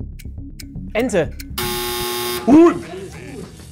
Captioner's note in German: Buzzer